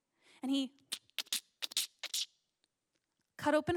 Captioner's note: cutting of rope noises, but weirdly squishy